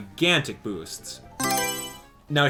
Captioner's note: Mario Selection Sound